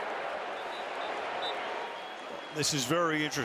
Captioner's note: whistle